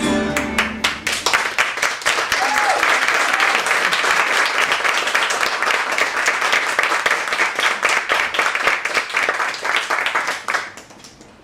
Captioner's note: applause